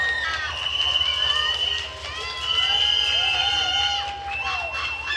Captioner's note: attendees cheering and applauding